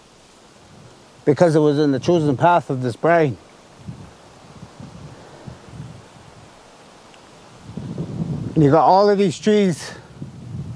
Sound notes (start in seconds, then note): 4.0 soft wind